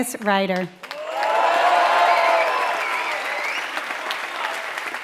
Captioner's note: applause